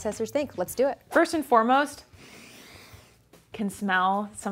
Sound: sniffs

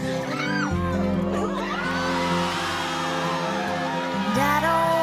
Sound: crowd cheers

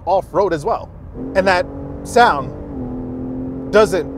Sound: exhaust roaring

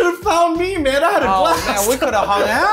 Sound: laughs

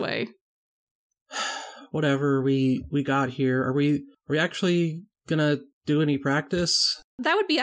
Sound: sighs

